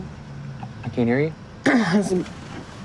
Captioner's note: clears throat